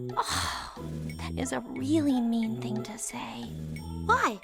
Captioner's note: sigh